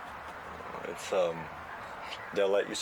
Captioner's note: birds cawing